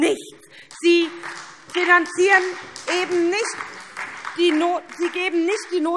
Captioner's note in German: Beifall SPD